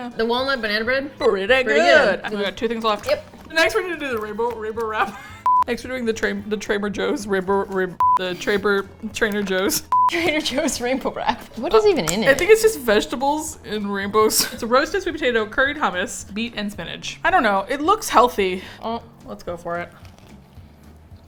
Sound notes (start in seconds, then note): 4.8 laughs; 10.1 laughs